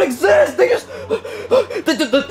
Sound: panting

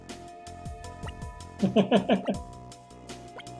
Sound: chuckles

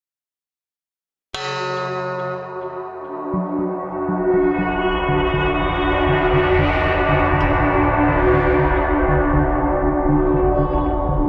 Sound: sound of cyber city

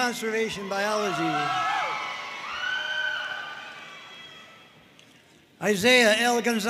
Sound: audience cheering and applauding

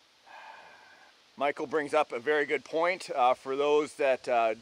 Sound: sighs

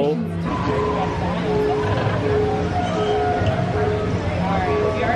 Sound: distant buzzer beeping

